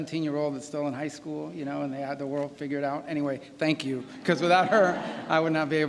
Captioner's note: laughter